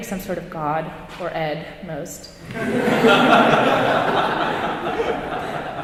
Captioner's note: audience laughing